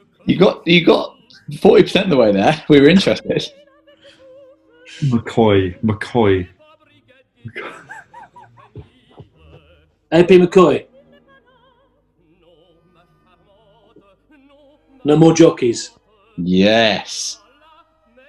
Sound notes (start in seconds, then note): 0.0 laughing; 7.4 chuckling